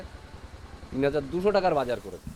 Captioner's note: indian native speaking